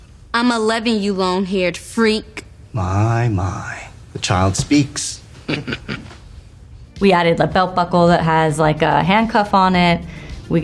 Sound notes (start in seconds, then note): 5.4 club member chuckling